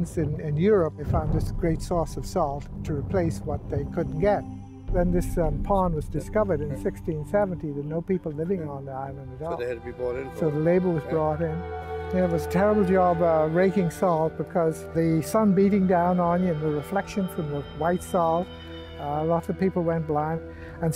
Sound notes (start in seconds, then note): none